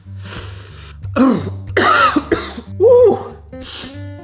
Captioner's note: inhales; coughing; sniffs